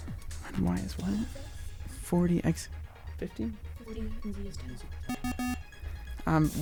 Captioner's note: wispering